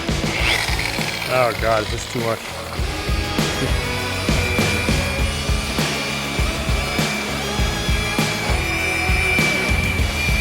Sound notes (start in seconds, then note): 4.6 buffer whirs; 4.6 funky rock music